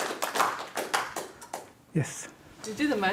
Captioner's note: applause